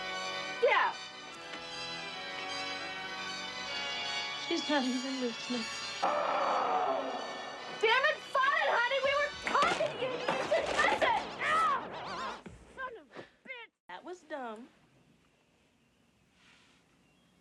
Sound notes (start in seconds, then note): 0.0 spooky music plays loudly; 2.1 spooky music plays loudly; 6.0 roar on cd